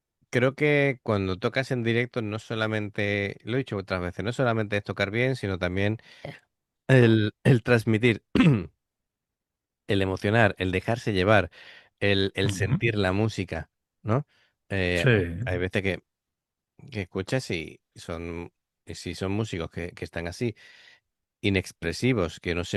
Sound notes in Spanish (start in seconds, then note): 8.3 carraspeo